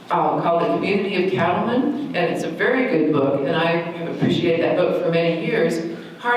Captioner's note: none